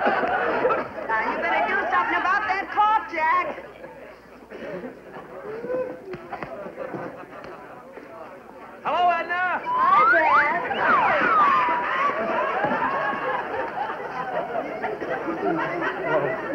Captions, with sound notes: - You better do something about that cough Jack. - Hello Edna! - Hi Jack. (laughter)